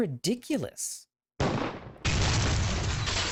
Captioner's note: gunshot